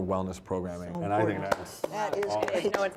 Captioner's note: clapping